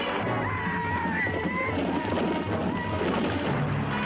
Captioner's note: men shouting